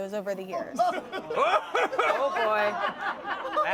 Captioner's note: everyone laughs